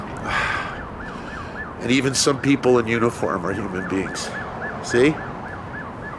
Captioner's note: sniffs